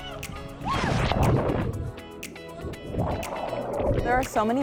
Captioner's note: water splashes